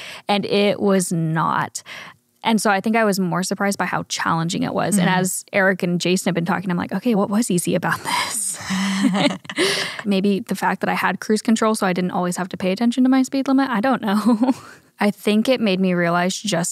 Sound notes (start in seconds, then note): 8.6 laughs